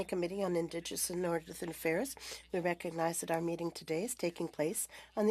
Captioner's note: speaking French